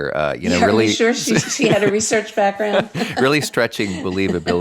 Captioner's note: laughs